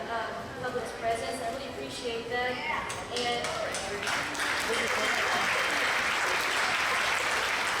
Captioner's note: applause